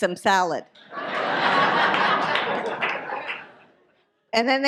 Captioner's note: audience laughs